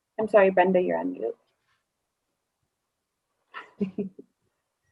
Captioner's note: laughs